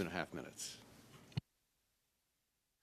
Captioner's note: speaking French